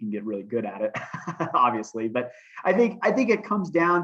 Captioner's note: laughter